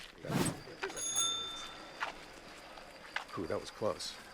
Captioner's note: biker ringing bell